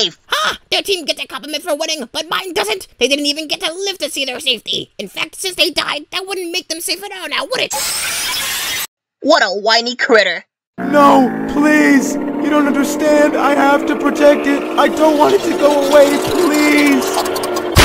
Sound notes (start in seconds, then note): 7.7 animatic screeching